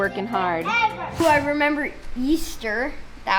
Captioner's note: wooshing